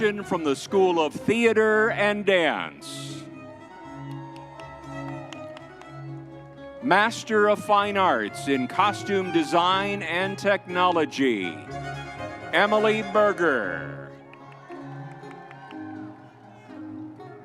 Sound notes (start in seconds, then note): 3.4 crowd cheering; 14.5 lively music continues